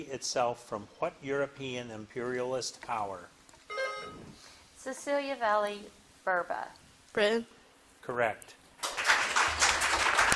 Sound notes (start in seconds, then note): 3.7 bell dinging; 8.8 audience clapping